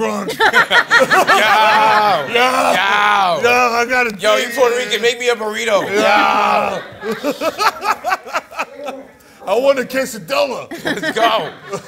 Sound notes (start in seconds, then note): 0.0 laughs; 5.7 laughter